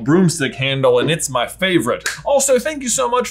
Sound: claps

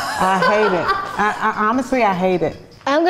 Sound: laughing off camera

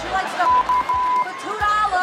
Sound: beeping noise

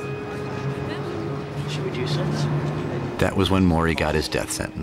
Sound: students Chattering

